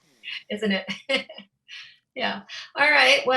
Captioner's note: laughs